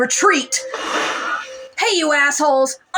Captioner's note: crackle